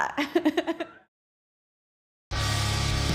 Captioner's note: Liv laughing